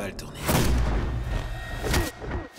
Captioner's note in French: coup de feu